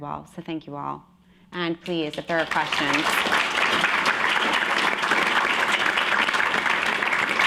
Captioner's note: applause